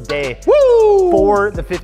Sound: whoo'ing

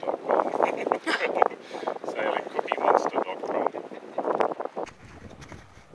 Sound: laughs

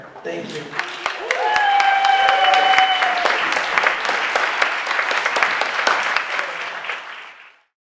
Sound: applause

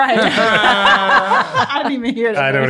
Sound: all laugh

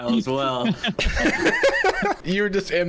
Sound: laughs

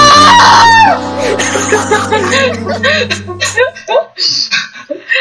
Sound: nearly everyone in voice chat dies of laughter

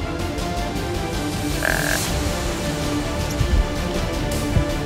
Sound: buck grunt

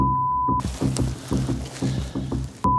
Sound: beeps

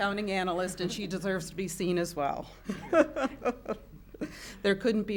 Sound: chuckling

